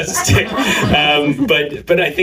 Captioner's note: laughter